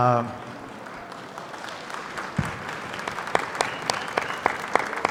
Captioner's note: audience clapping